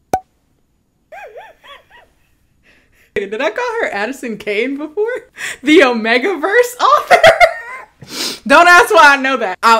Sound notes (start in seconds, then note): 1.1 laughs; 7.7 laughs